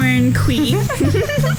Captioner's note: the girls begin to laugh once again